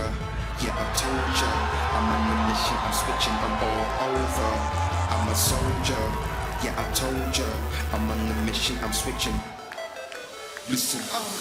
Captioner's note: crowd chatter